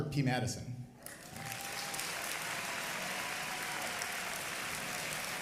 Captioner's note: audience applauding